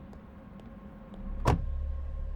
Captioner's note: door shuts close